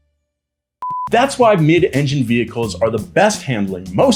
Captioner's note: beep